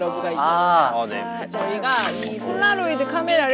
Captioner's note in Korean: 찰칵